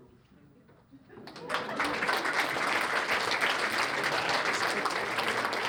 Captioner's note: applause